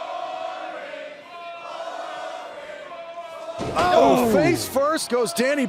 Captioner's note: crowd cheering